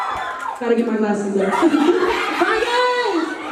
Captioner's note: laughs